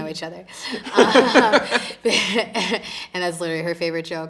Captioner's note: both laughing